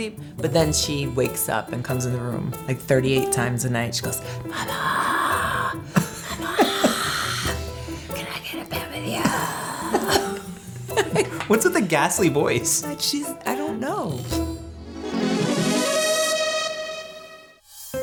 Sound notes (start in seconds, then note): 9.0 laughing; 15.1 upbeat music